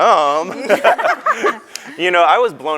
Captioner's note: group laughs